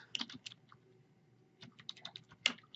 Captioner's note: typing